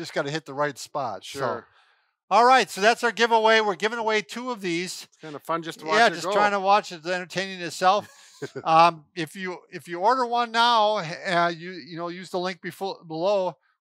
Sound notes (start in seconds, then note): 7.9 laughs